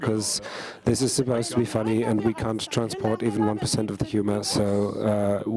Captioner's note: speaking in German